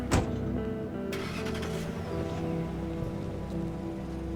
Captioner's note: engine turning